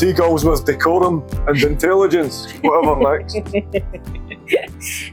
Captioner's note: laughter